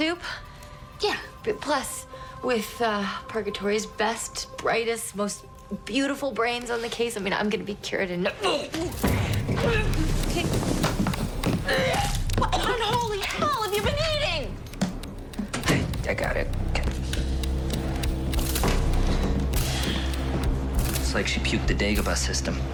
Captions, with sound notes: - Yeah. - Plus with Purgatory's best, brightest, most beautiful brains on the case, I mean, I'm gonna be cured in no-- (gagging) - Okay... (vomiting) - What in unholy hell have you been eating? - I got it. (tense music) It's like she puked the Dagobah System.